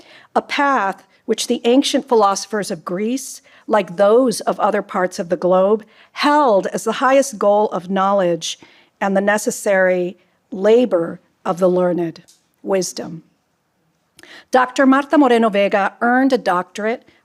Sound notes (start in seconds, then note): none